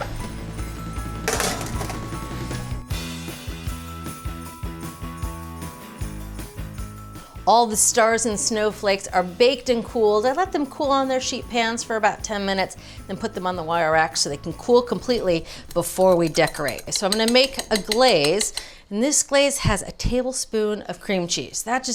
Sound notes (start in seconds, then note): 1.2 tray clanks; 3.0 upbeat music